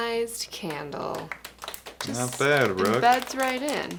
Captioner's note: audience clapping